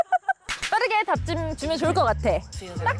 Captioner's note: sound effect: matchmaking give and take